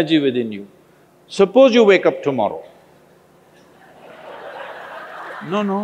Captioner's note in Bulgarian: Смях